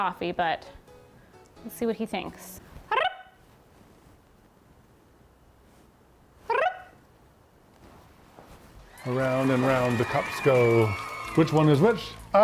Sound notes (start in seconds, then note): 2.5 trilling tongue; 8.8 audience cheering